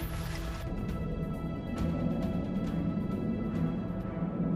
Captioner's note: airplane whooshing